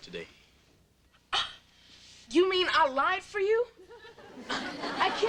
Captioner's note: gasps